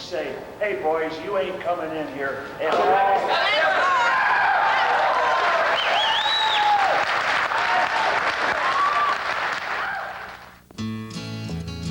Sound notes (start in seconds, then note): 5.7 audience responds approvingly